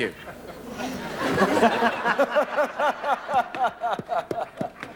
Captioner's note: audience & Crew Laugh